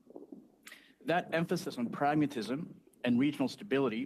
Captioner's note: speaking French